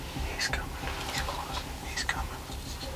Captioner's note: whispering